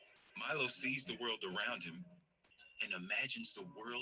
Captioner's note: voiceover